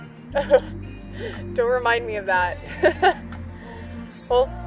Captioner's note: laughs